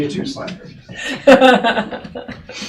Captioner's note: laughing